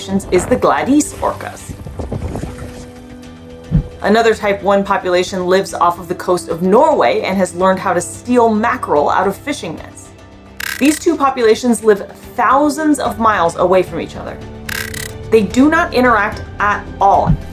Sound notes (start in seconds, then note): 1.7 background music; 1.7 background wind noise; 14.5 background music